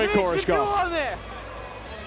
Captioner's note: foreign